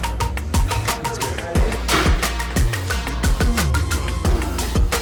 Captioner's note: gym noise